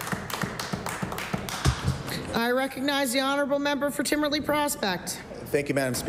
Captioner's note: applause